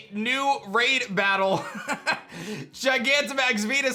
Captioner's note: laughs